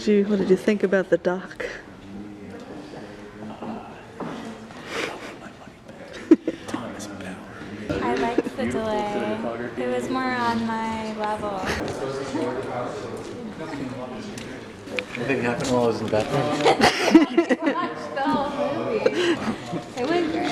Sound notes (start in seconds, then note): 5.3 whispers; 6.0 laughs; 19.2 laughing